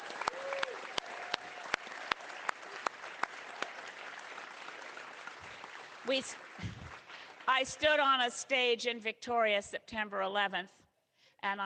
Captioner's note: cheering